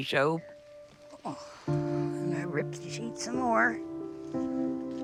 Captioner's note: sighing